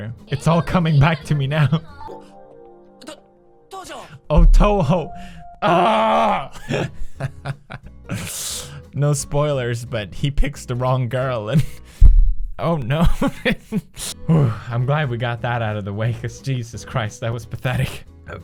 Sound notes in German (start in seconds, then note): 6.5 lacht und atmet ein; 13.3 lacht weiter